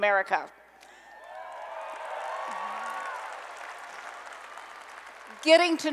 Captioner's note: applause and Cheering